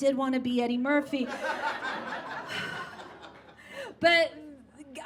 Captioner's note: audience laughs; sighs